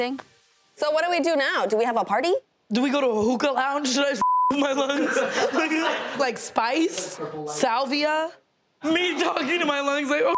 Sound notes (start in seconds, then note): 4.2 beeps; 4.6 laughing